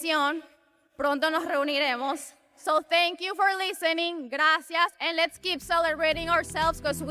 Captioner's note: speaks Spanish